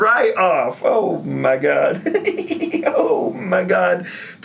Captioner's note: laughs